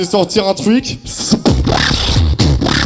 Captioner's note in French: beatbox